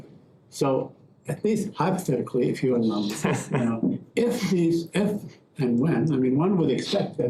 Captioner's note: laughter